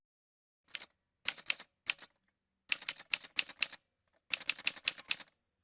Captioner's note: typewriter sounds